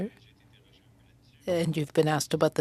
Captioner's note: speaking French